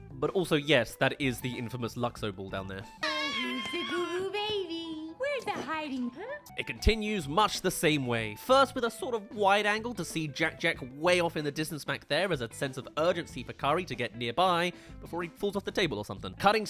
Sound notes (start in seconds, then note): 3.0 coos